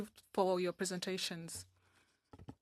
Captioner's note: speaking French